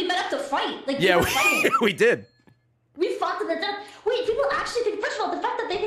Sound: laughs

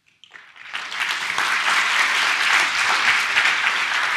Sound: audience applause

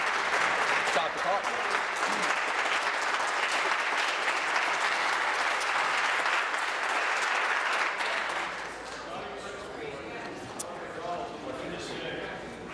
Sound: applause

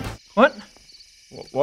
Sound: crickets

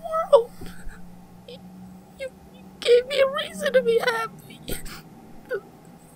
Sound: sob

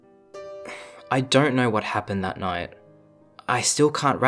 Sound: sigh

